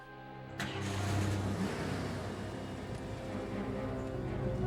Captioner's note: engine revs